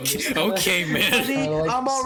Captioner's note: chuckling; mocking